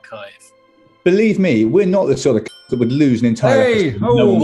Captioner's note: ding!